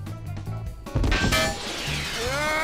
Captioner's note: metal clank